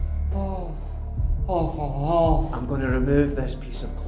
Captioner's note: grumbling